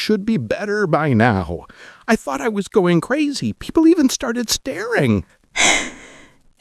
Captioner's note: sigh